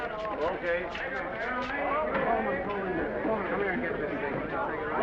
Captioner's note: crew chattering